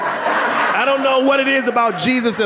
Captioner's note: audience laughing